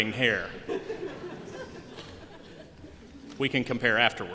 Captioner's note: laughter